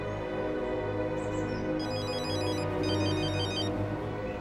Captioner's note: phone rings